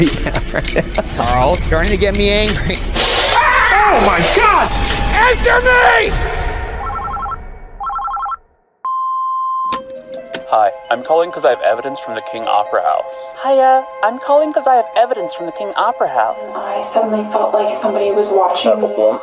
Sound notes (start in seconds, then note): 0.0 laughing; 3.4 Spirit Box buzzes; 6.8 phone ringing; 7.8 message machine beeps